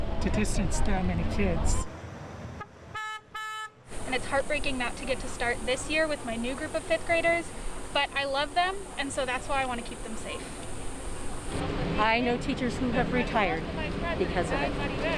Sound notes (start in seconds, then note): 2.5 car honking